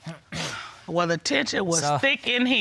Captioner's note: clears throat